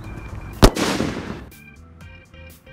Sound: boom…

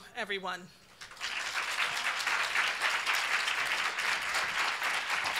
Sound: audience applauding

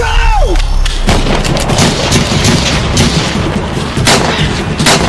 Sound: gun shots firing

